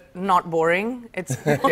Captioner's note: laughter